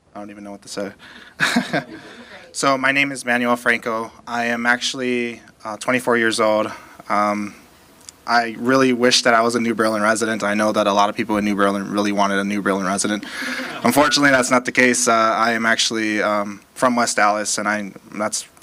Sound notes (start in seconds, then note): 4.7 laughter